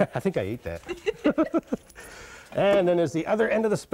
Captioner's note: laughter